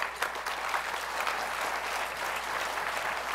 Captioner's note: applause